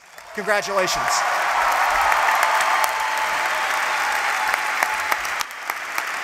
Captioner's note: applause